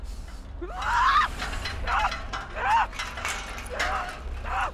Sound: kasia screams; rattling, banging continues

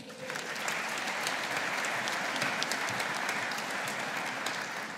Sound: audience applauding

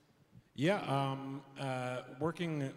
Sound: stammers some

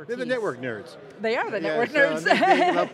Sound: laughs

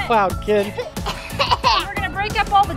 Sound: coughing

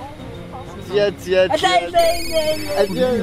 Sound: mocking

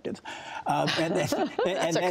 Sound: laughter

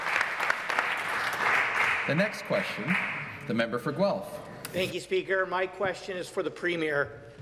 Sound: applause

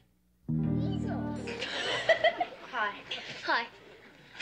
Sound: laughs

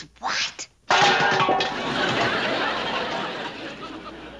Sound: metallic crash

